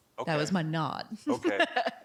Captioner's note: laughing